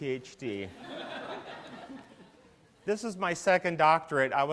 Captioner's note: laughter